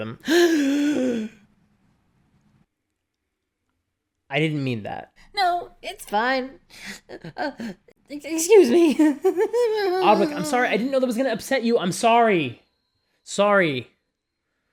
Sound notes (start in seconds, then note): 0.2 gasps; 9.6 wimpers